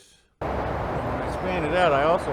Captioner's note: car engine roaring